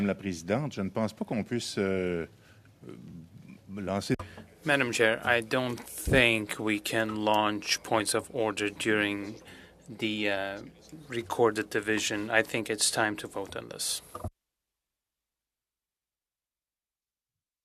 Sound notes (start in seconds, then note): 7.5 speaking French